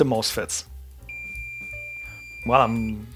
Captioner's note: beeping